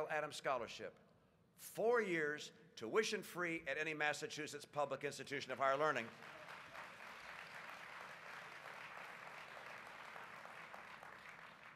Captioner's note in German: Applaus